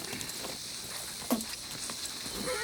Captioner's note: gang member spits; horse neighs